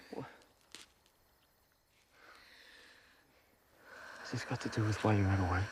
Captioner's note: insects chirping